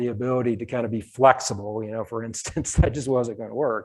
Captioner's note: chuckles